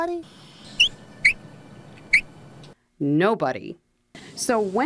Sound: squeak, squeak

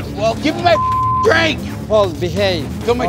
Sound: beep

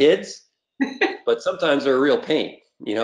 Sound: laughing

